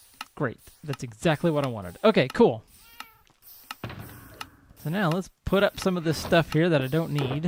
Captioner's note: cat meows